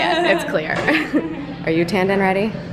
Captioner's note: laughing